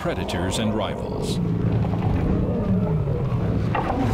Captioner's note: roaring